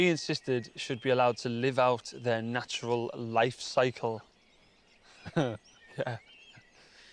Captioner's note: laughing